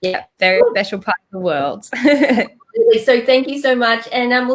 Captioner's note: chuckles